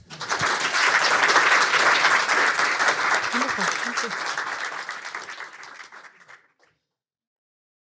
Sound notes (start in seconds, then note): 0.0 audience applauding